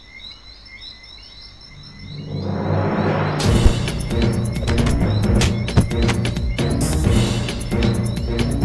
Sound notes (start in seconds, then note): 2.5 lively beat music; 3.5 kicks thudding